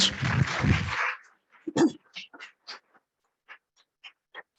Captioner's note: attendees clapping